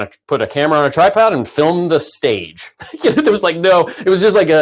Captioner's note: laughs